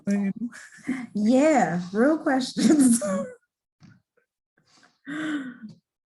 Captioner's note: laughing